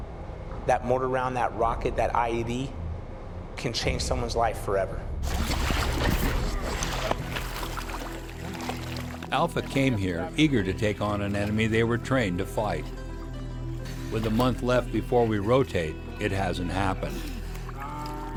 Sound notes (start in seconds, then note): 5.2 splashing; 9.4 voiceover